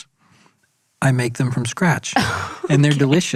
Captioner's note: laughs